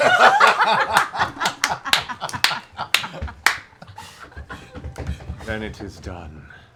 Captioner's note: laughter